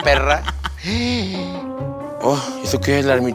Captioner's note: witch gasp